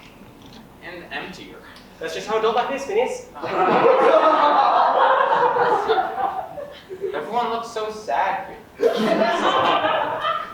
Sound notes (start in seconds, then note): 3.4 audience laughs; 8.8 audience laughs